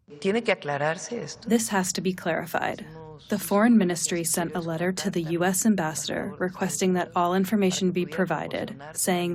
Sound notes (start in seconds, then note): 2.4 through translator